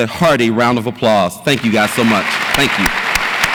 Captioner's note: audience applauds